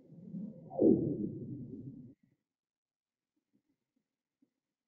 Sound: low pitched bloop

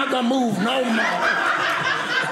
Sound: audience laughing

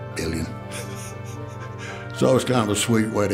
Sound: laughing

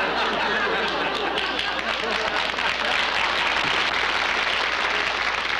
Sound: applause

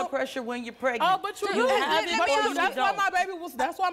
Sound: everyone yelling

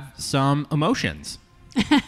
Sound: laughs

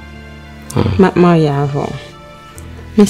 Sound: humph

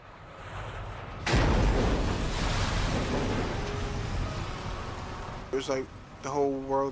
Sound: explosion

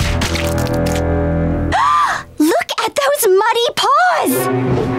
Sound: gasping

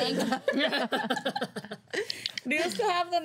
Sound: girls laughing

